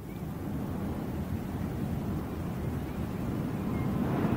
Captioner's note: surf pounding